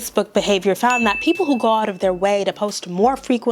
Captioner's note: bell rings